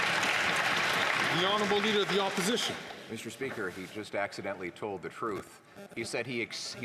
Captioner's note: some Applause